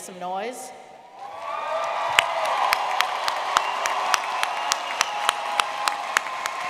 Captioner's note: audience clapping and cheering